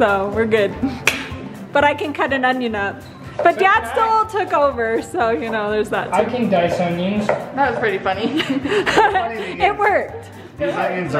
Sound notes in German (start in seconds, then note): 8.2 lacht